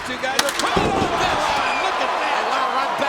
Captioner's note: steel rattling